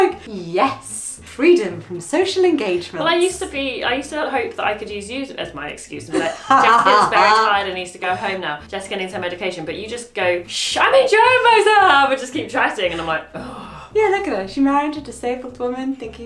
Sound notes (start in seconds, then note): 13.3 groans